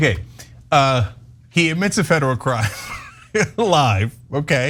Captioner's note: laugh